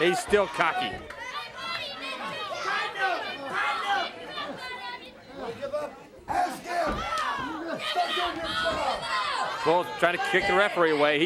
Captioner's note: crowd chatter